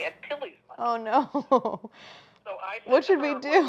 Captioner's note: chuckles